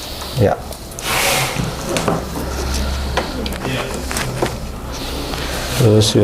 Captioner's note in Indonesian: suara kabel